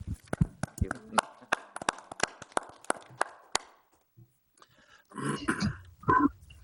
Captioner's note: group applauding